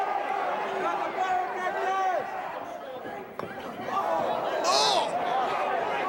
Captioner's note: crowd chatter